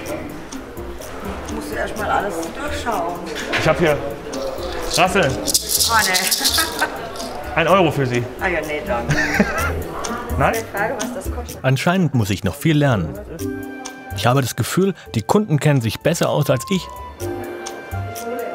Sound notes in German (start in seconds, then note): 5.5 lachend; 9.1 Er lacht